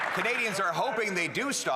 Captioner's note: applause